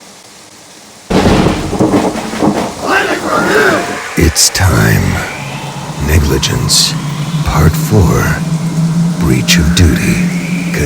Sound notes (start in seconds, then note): 1.0 thunder crashes; 4.3 whooshing wind